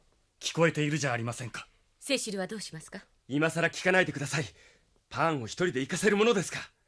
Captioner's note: none